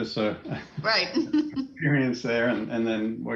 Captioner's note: laugh